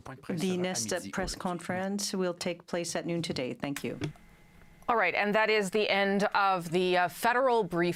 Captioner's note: speaking French